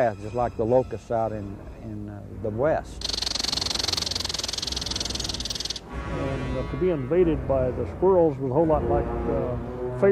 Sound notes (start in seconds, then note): 3.0 squirrel chittering; 4.7 dramatic music